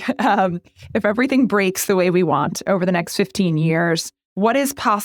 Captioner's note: laugh